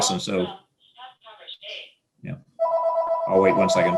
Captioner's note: machine faintly speaking; phone ringing